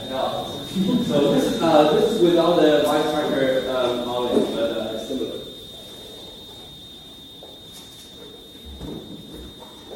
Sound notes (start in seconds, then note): 0.7 laughter